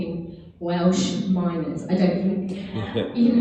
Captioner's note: audience member chuckling